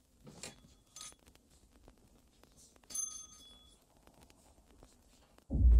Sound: door bell jingling

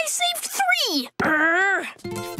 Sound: groaning

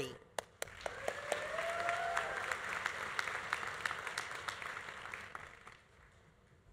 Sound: audience applauding; audience cheering

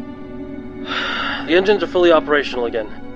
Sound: sigh

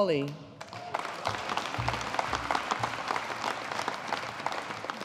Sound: audience applauding

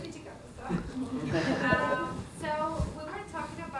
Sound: laughter

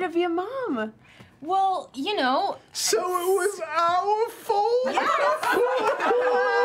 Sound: crying

